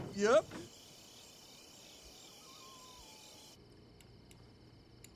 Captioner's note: crickets chirping